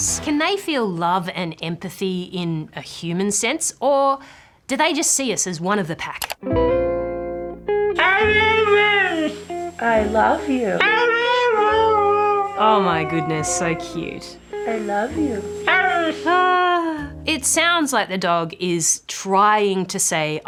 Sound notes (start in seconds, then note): 8.0 dog yowls; 10.7 howls; 15.9 howls